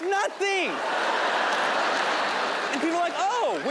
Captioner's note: audience laughing